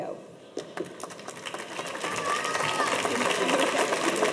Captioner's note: audience applauds